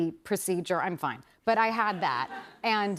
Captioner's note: laughter